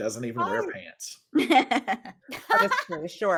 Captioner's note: laughs